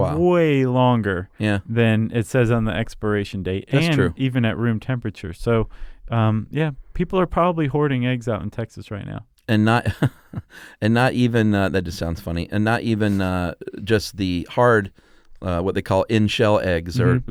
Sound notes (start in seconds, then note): 9.8 laughs